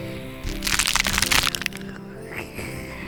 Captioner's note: almighty toe curling crunch